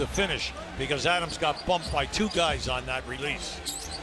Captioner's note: cheers and applause